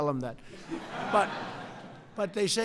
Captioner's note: laughter